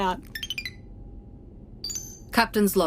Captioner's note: beeps